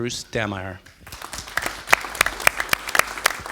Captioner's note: applause